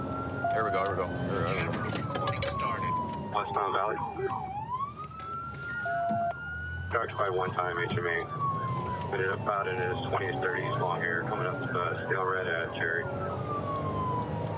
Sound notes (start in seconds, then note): 0.0 sirens; 3.9 sirens